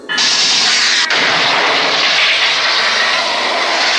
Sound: laser buzzing

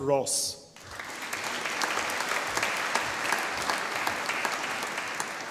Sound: audience applauding

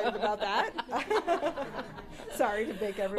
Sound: laughter

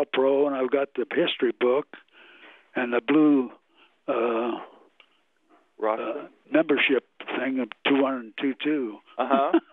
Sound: laughs

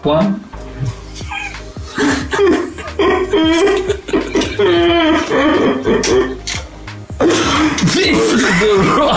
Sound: laughing; laughing

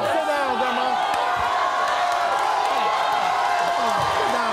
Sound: audience cheers

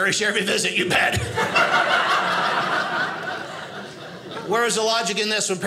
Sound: audience laughing

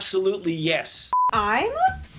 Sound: beep

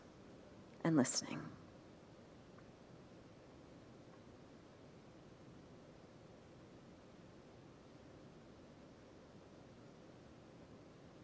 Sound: silence

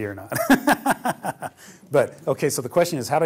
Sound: laughter

